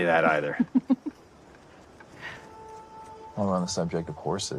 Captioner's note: laughs